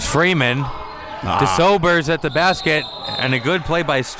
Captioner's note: whistle blows